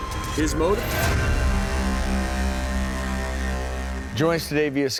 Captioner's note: buzzing